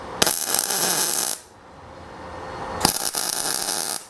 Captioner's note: torch buzzing